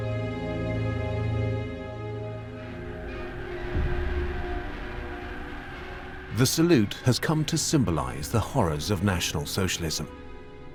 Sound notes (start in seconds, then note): 2.6 crowd cheering faintly